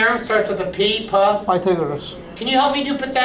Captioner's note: voiceover